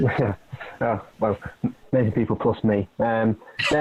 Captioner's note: laughs; laughing